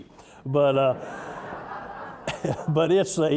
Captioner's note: audience laughing